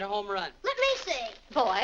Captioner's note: paper rustling